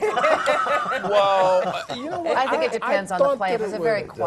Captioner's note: laugh